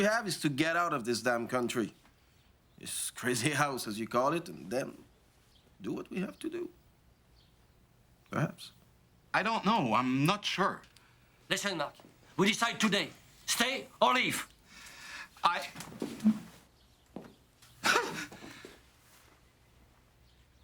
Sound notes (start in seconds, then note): 18.1 pants